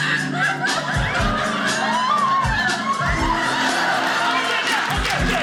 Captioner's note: audience laughing; audience cheering